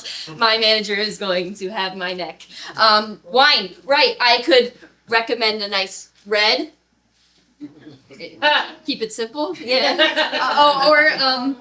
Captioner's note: laughter